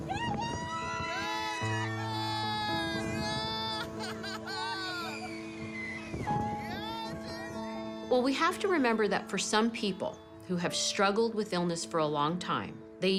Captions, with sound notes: (PEOPLE SCREAM) Go, Jayden! (LAUGHS) Yeah, Jayden! We have to remember that for some people who have struggled with illness for a long time,